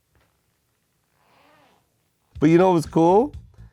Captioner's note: shoes squeaking